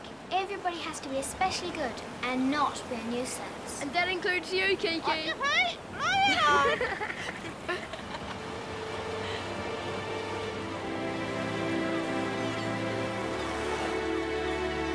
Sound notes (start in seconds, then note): 6.0 all laughing; 12.2 dramatic music